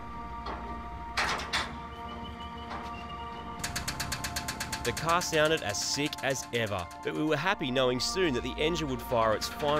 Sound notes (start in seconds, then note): 1.0 metallic clanging; 3.4 engine rattling